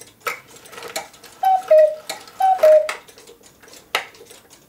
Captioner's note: cuckoo call